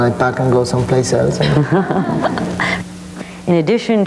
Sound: audience laughing

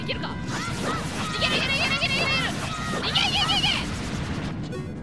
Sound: more battle cries

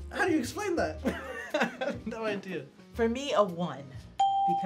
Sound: laughs

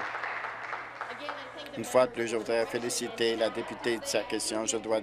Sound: applause

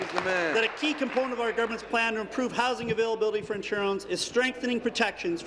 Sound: applause

